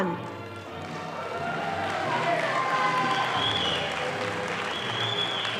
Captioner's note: audience applauding